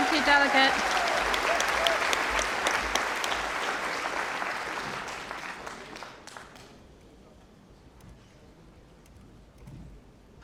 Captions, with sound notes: shambles and give our NHS more funding that it needs and less of the photo opportunities. Thank you. (Applause)